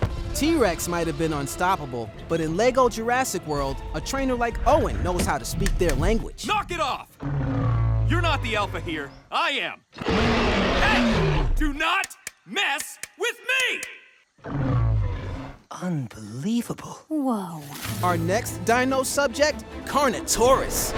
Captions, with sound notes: T-Rex might have been unstoppable but in Lego Jurassic World, a trainer like Owen knows how to speak their language. Knock it off! You're not the alpha here, I am! Hey! Do not mess with me! [growling] - Unbelievable. - Woah! Our next dino subject, Carnotaurus!